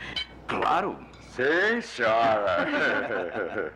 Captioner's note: all Laughing